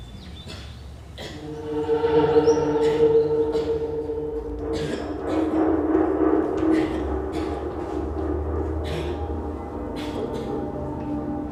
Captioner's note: coughing